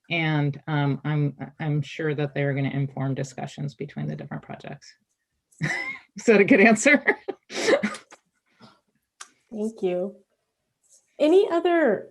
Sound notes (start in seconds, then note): 5.6 chuckles